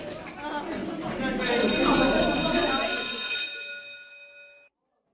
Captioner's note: people chattering; bell rings